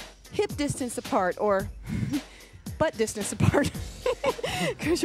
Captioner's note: laughs